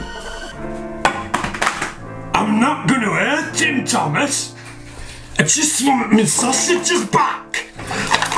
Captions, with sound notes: (stick hits floor) I'm not gonna hurt him Thomas. I just want me sausages back.